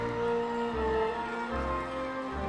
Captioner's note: audience applauding